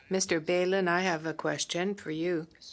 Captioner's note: speaking French